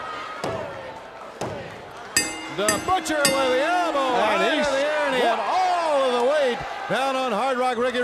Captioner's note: bell ringing